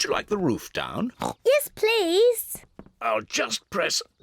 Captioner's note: oinks